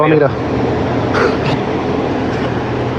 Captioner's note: laughghs